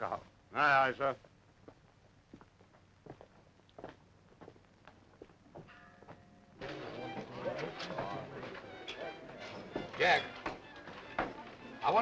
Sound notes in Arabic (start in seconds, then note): 6.6 موسيقى مشرقة; 6.6 الناس يتحادثون